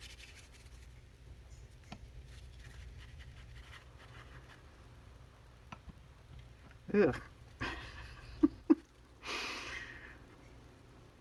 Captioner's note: laughs